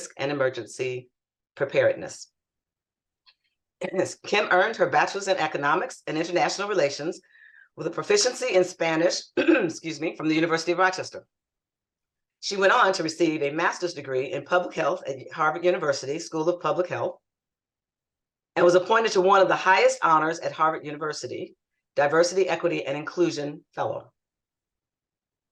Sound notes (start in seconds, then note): 9.4 clears throat